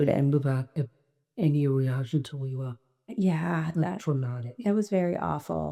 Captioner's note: non-english speech